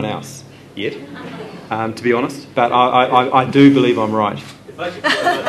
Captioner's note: laughter; laughter